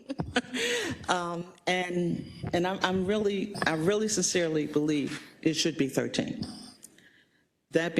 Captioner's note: laugh